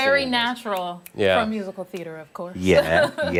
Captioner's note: laughter